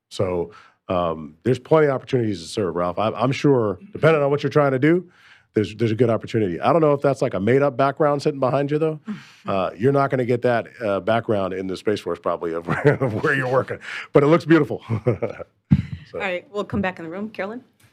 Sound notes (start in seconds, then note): 12.6 laughter